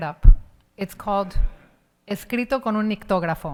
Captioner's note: speaks in Spanish